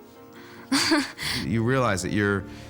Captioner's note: watson chuckles